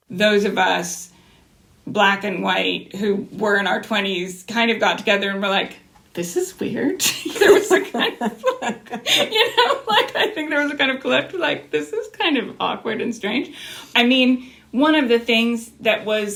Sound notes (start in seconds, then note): 7.0 laughter